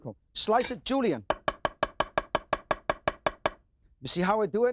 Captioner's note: knife clangs